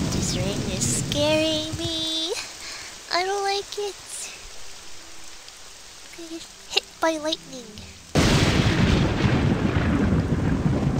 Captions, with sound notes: This rain is scaring me. I don't like it. Gonna get hit by lightning! *forboding lightning strike*